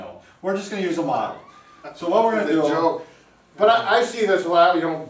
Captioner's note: laughing